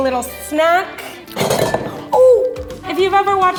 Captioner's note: clash